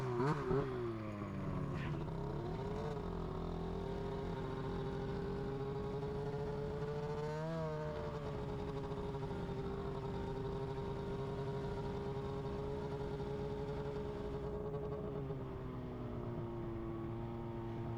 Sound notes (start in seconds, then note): 0.1 engine humming continues; 5.9 engine humming continues